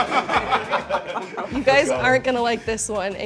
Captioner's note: laughing